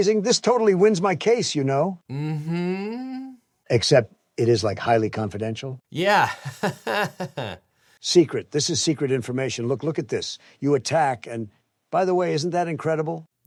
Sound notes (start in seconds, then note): 5.9 laughs